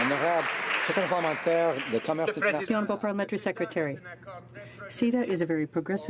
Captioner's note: some Applause